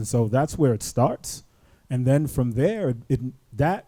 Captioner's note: none